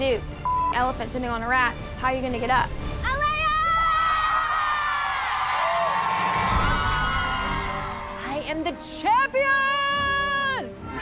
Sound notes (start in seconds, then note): 5.1 cheers and applause